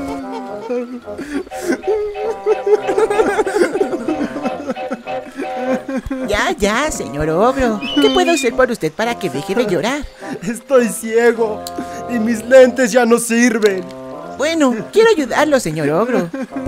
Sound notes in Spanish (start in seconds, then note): 4.1 ogro continúa llorando